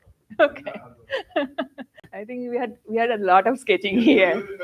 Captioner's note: laughs